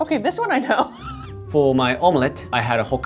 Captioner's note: chuckling